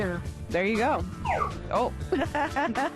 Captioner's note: laughs